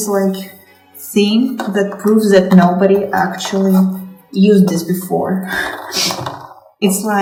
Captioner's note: laughs